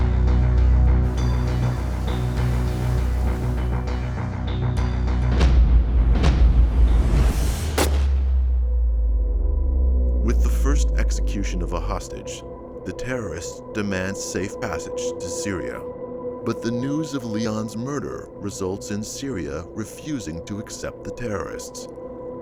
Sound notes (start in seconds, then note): 7.7 gun firing